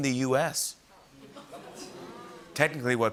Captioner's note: audience oohs